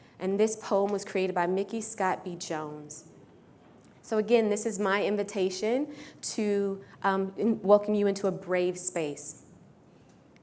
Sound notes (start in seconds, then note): none